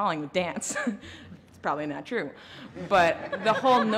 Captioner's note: laughter